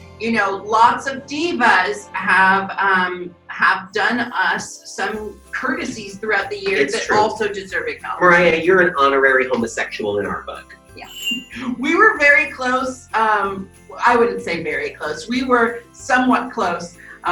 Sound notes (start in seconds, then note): 13.2 laughing; 13.9 bells jingling